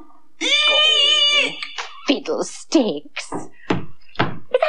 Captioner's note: sound Of Footsteps Approaching